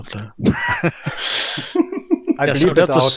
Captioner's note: laughter